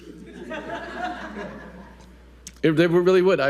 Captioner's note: audience laughing